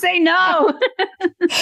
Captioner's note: laughter